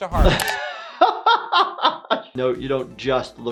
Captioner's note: laughing